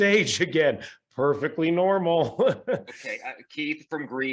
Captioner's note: laughs